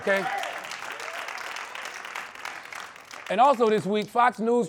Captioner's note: applause